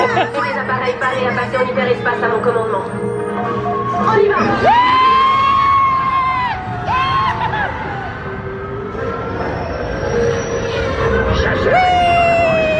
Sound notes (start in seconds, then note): 0.0 laughs; 2.2 announcer speaking in French; 4.6 screaming